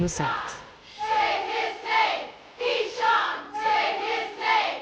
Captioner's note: crowd